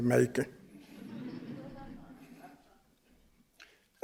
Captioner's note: chuckling